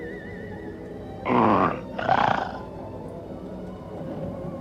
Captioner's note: extraterrestrial music; growls